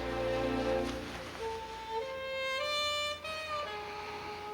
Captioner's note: sighing